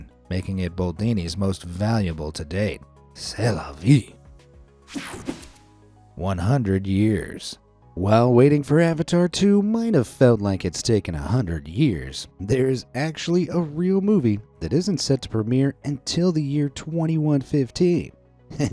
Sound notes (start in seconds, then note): 4.9 air whooshing; 5.0 soft upbeat music